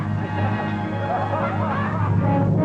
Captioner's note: laughing